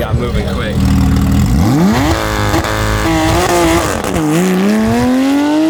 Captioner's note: car engine revving